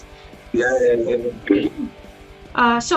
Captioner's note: Улюлюканье